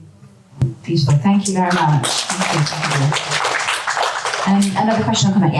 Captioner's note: audience applause